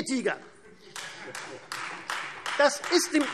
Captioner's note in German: Beifall Freie Demokraten